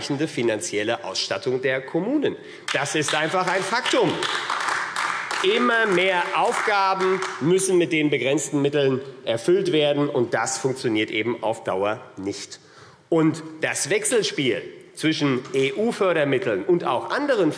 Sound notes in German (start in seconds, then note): 2.6 Beifall AfD